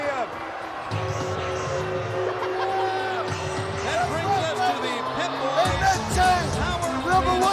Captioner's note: Sherri laughing